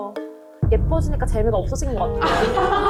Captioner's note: worried sound effect